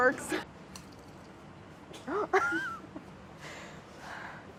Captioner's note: laughing